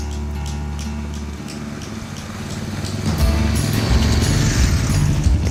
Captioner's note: water splashing